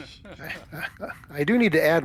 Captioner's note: laughs